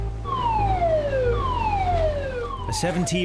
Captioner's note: alarm blaring